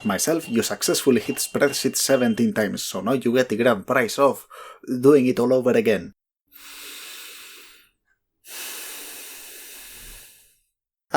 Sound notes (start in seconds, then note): 6.5 inhale; 8.4 exhale